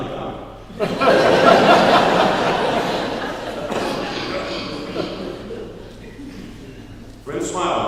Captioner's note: laughing